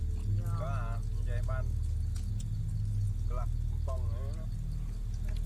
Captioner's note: speaking in foreign language